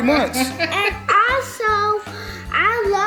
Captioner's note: laughing